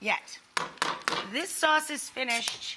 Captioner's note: tongs clinking